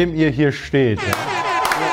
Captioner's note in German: Jubel, Applaus